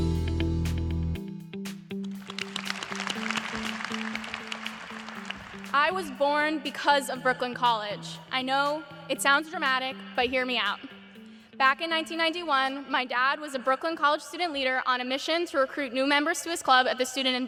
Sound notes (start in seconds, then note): 2.2 applause